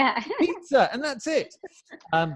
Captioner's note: chuckles